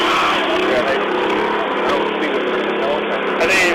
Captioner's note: chainsaw sounds